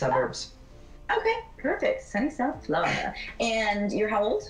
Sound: none

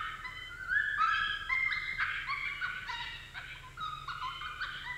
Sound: coyote pup animal call

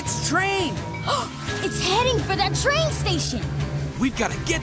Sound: gasping

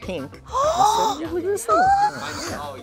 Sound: gasps

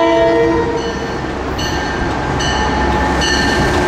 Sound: bells ringing

